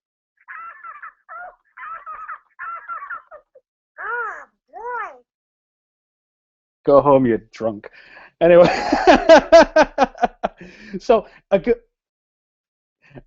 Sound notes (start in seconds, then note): 8.5 laughs